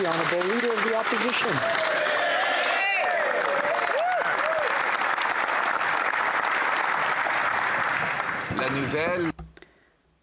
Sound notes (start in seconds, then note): 2.4 applause